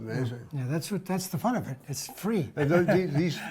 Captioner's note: laughs